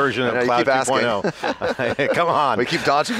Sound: laughter

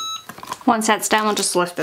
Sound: press beeps

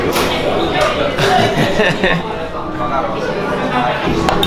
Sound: laughing

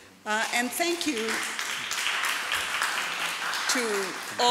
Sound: audience applauds

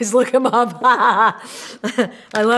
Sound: laughs

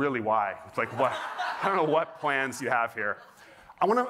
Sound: laughter

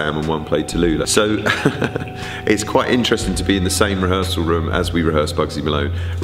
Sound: chuckles

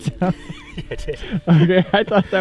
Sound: laughing

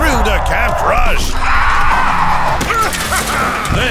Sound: screaming

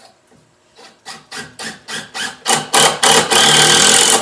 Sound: drill whirring

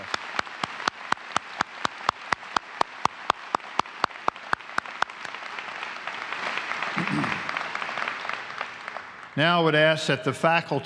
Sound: applause

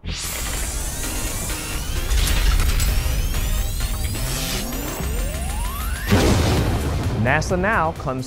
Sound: sound Effects

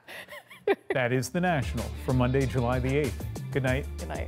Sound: laughter

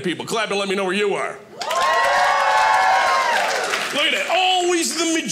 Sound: audience cheering

